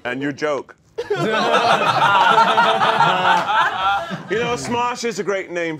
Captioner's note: all laughing